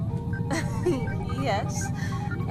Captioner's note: laughs